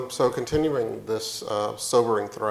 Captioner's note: none